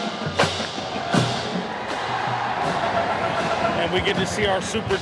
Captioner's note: fans cheering